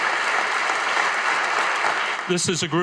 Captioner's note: audience applauding